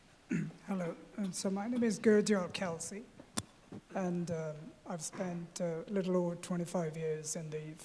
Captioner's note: clears throat